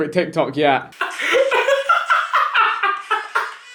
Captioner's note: laughing